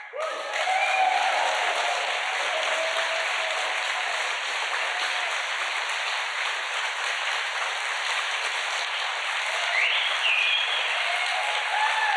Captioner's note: applause